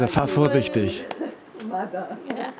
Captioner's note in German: Lachen